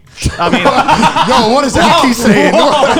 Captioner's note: laughing